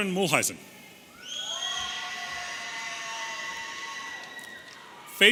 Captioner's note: audience cheering